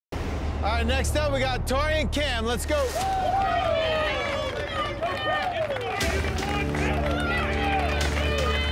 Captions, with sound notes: - All right, next up we have Tori and Kam Let's go. (crowd cheering) (intense music)